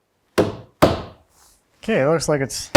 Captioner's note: wood pounding